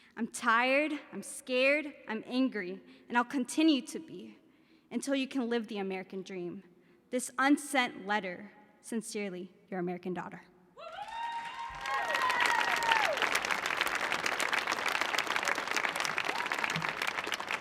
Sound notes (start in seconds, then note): 10.9 audience applauding